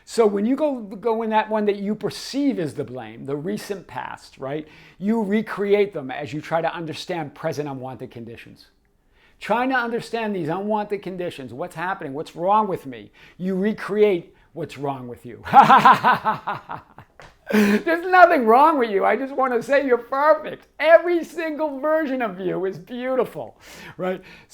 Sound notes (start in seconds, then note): 15.4 laughing